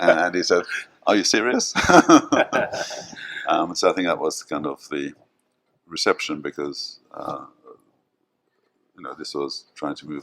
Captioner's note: laughs